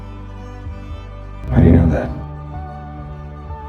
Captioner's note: voiceover